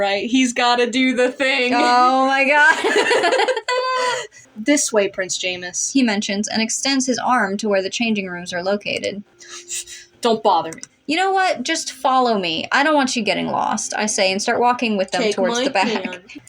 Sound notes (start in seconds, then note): 2.6 laugh; 2.7 both Laugh